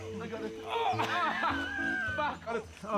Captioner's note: laughs; grunts